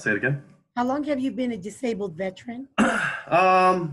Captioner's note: clears throat